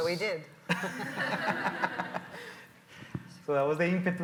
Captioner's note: audience laughs